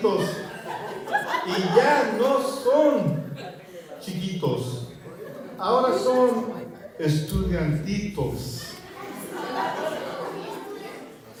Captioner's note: laughter